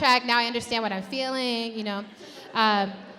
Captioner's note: audience laughs